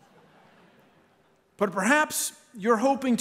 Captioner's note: laughter